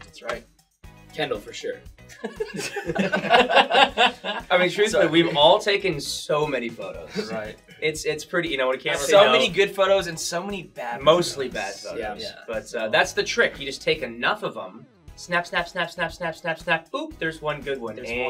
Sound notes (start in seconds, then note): 2.2 all laugh